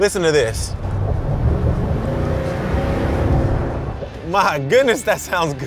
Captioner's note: revs engine